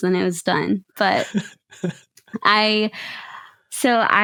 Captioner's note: chuckles